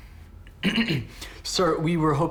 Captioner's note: Lloyd Clears His Throat